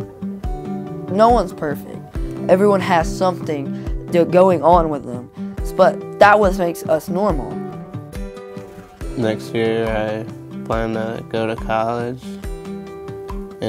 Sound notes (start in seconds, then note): none